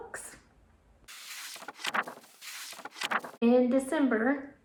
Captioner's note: pages turning